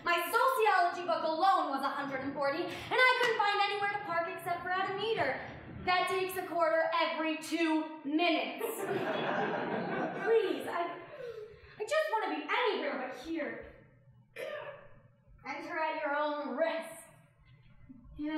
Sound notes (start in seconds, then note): 8.6 audience laughing